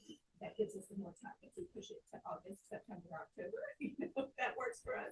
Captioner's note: colleagues conversing